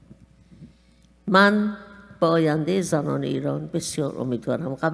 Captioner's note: speaking persian